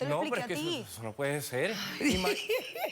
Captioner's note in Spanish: Risas